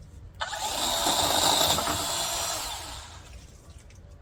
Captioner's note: chainsaw revs